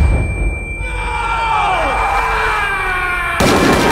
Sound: all shouting

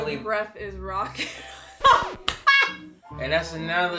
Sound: laughing

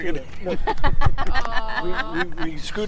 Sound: women laughing

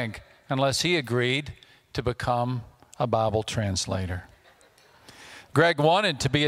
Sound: audience laughter

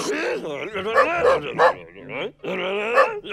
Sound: barking

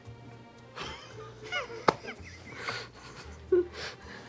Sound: gentle music; both laughs

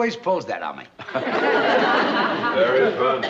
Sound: Mr. Mooney chuckles

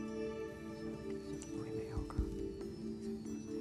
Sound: whispering

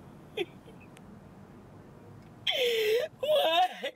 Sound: Crystal crying

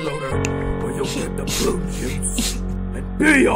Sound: Tommy starts to cry

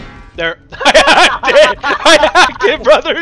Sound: laugh

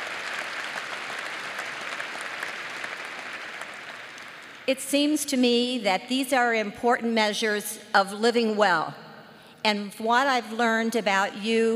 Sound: applause

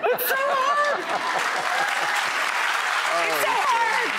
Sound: applause

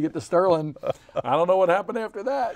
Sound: chuckles

